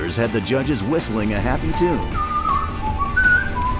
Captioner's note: whistling